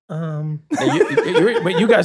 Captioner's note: Rob laughs